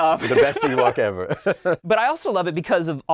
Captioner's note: laughing